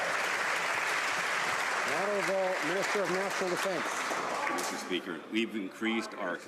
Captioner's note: some Applause